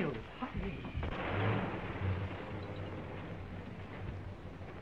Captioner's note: car engine puffing